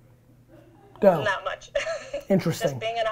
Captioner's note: laughs